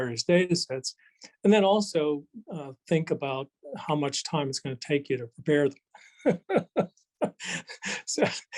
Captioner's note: laughs